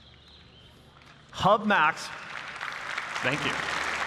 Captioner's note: applause